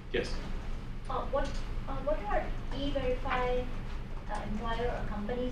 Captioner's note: voiceover